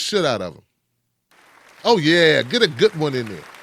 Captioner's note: audience claps